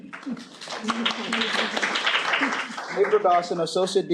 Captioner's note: applause